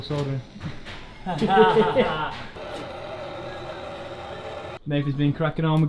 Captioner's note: laughing sarcastically